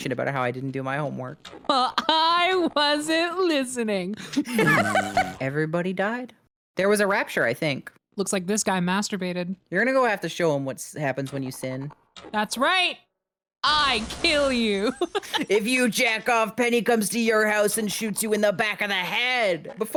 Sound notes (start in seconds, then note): 4.2 laughs; 4.7 blows a raspberry; 14.9 laughs